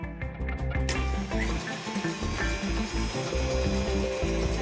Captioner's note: mixer whirring